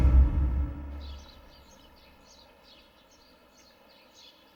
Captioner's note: birds chirping